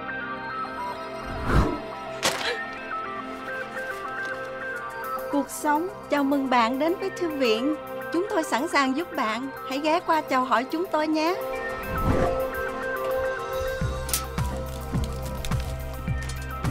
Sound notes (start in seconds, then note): 4.6 speaking in Vietnamese